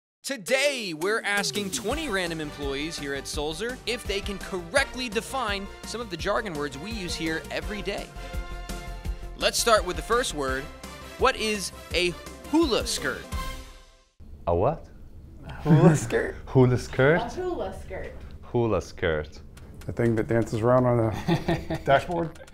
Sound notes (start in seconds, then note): 17.4 woman Speaking